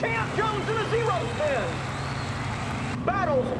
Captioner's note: CROWDS CHEERING,</i> <i> CARS ACCELERATING